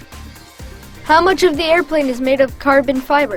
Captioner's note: voiceover